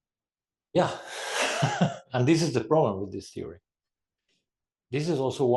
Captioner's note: laugh